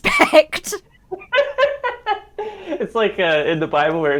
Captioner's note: both laugh